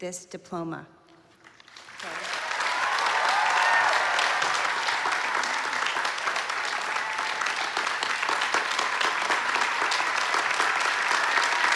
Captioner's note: applause